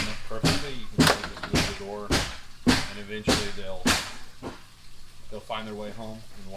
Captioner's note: hammering